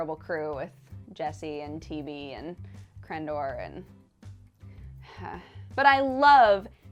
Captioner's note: sigh